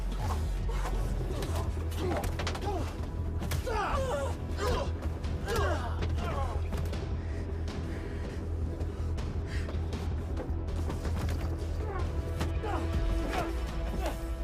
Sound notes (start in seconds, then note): 3.6 blows thudding; 3.6 people groaning; 8.1 tense music